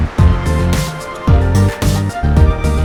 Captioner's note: heartbeat